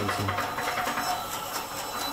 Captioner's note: whirring, rattling